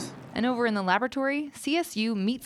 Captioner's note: voiceover